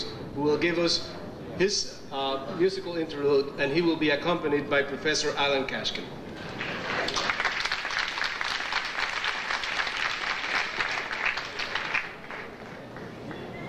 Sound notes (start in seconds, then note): 6.3 audience applauding